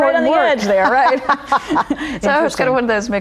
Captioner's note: laughter